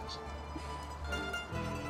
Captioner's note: laughs